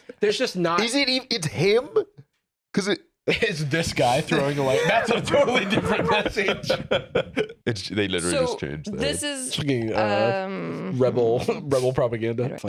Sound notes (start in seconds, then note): 4.3 laughing